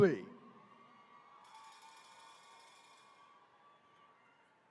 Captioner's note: attendees cheering